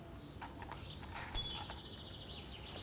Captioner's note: birds chirping